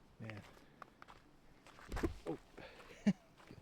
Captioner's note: footsteps